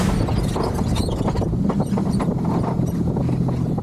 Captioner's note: trailer squeaks